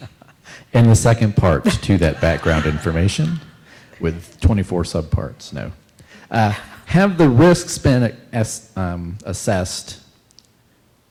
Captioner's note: laughter